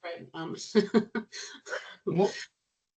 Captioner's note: chuckling